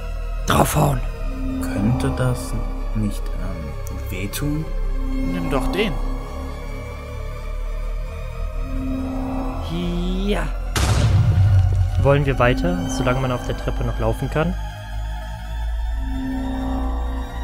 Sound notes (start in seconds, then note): 10.7 explosion